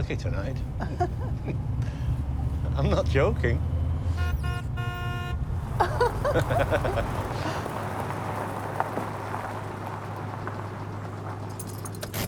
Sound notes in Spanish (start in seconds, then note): 0.7 Robyn ríe; 3.7 ambos ríen; 4.0 bocina del coche